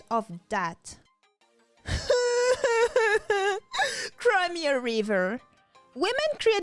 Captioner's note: mimic crying